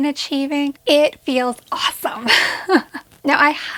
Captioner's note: laughs